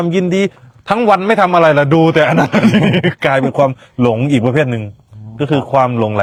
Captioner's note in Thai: เสียงหัวเราะ